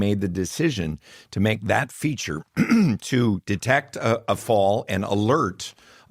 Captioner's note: clears throat